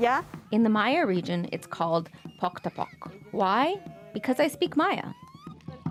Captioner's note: speaking alternate language